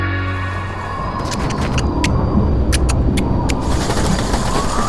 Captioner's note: dialogue in Mantinese